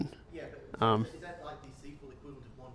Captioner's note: voiceover